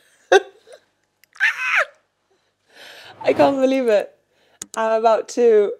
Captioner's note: screams